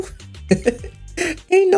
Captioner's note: laughs